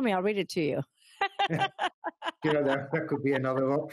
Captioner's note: laughing